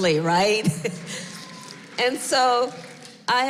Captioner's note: applause